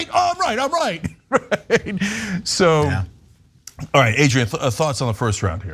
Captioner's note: laugh